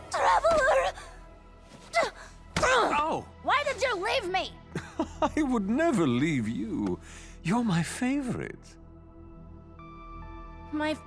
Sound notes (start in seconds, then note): 5.4 laughs